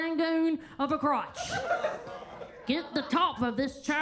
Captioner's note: attendees laughing